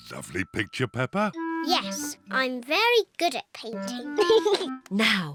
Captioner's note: giggles